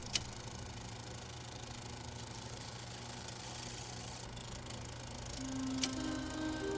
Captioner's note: sounds of old time movie projector